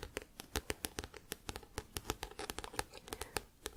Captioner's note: tapping on book